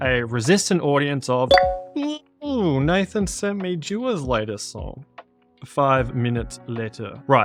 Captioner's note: beep beep